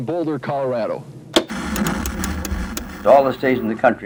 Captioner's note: knob clicking